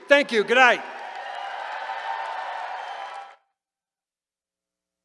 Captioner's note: cheering